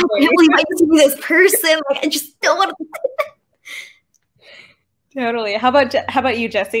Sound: laughs

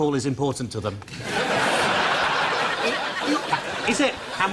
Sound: audience laughs

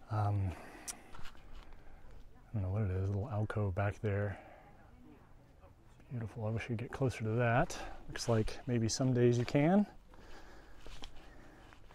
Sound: background chatter

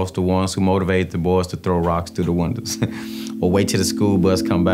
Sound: chuckles

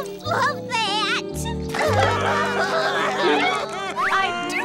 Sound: all sobbing

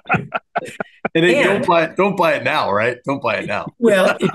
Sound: laugh

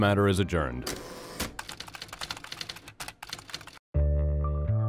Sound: typewriter clicks; tense music

